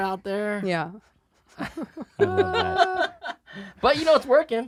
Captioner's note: laughing